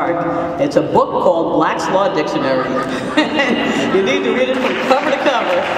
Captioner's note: laugh